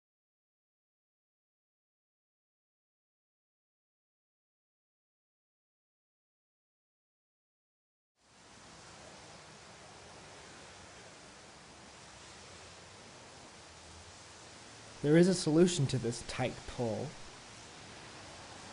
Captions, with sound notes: [street traffic noises] There IS a solution to this "tight pull". . .